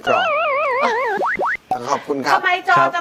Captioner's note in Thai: เสียงเอฟเฟกต์